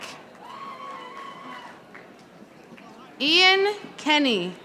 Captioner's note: audience applauding